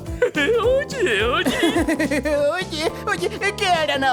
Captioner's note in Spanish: Burlándose